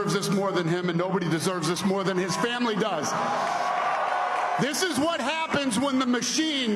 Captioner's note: applause